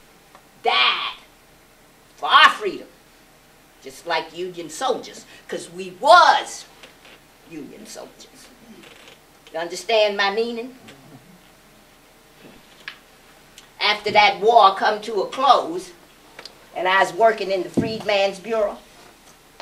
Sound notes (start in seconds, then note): none